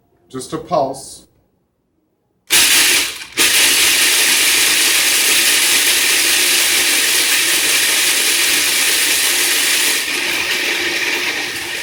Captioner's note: Cuisinart making grinding noises; grinding noises